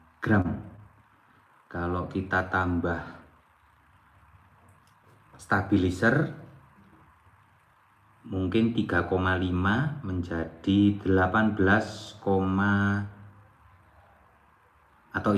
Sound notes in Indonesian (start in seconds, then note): none